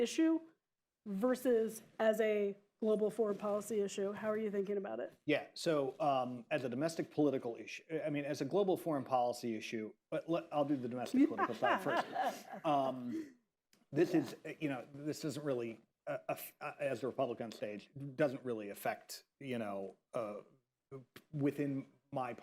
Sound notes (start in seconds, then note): 11.1 laughter